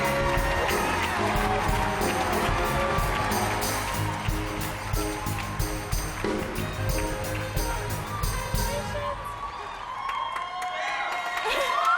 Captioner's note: applause